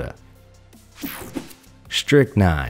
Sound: image whooshing

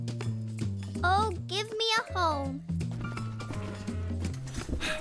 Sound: groaning, clattering

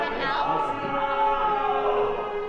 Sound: shouts

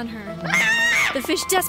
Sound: shrieks

